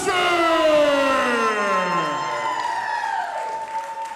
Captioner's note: crowd cheering